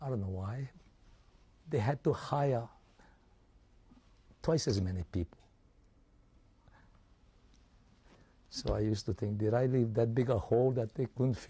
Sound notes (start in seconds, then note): 5.6 pauses for 3 seconds